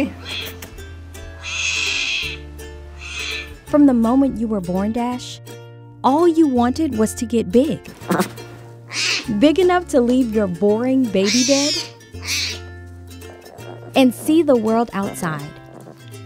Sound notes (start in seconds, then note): 1.3 Dash crying; 7.9 Dash grumbles